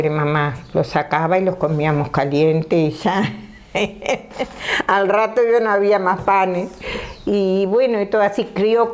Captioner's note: she laughs